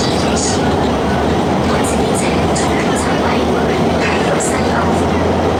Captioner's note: Cantonese